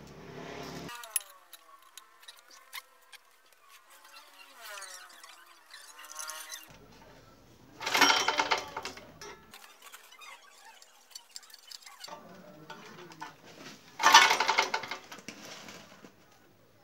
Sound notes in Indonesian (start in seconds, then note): 7.8 bunyi mesin; 13.9 bunyi mesin